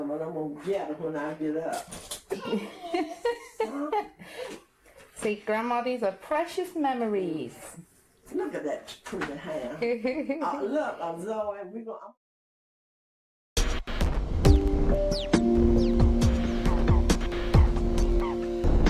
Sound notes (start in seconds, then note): 2.3 laughs; 14.4 remixed piano music